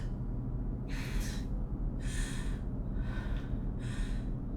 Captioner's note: heavy breathing